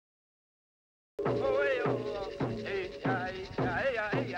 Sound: chanting

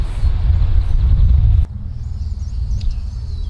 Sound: birds chirping

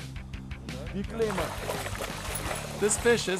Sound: fish splashing

